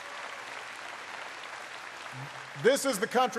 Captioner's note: applause